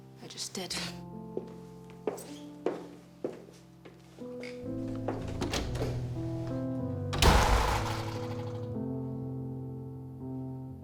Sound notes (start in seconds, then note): 0.0 somber music; 1.4 footsteps plodding; 7.0 door slamming